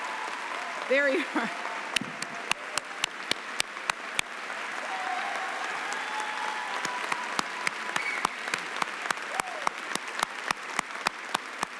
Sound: applause and cheering

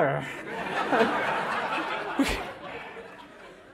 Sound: laughter

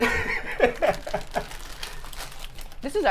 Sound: laughing

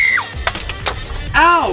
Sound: screaming; egg cracking

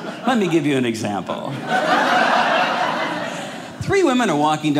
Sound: audience laughing

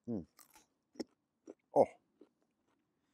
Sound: chews

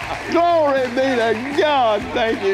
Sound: cheering

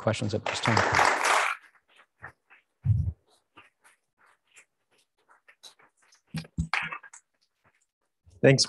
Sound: applause

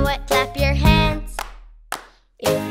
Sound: hands clap

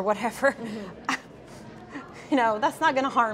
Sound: laughs

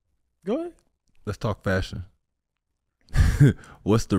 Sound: chuckles

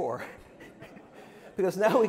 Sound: laughter

